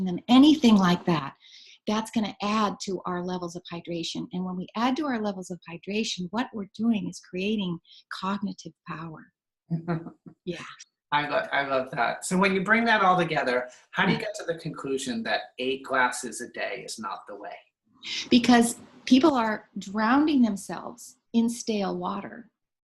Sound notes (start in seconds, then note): 9.7 chuckles